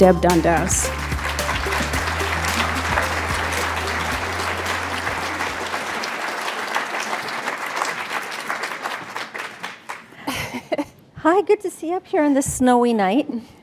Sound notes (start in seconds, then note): 4.0 applause